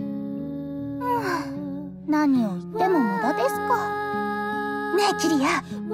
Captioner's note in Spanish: suspiro